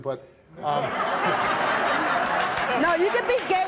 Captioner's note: audience laughing